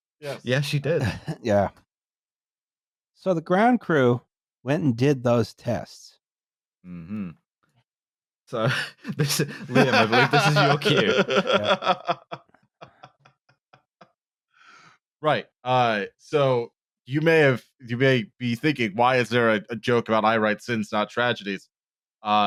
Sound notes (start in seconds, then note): 8.6 laughs